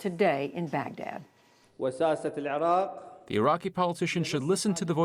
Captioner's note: through translator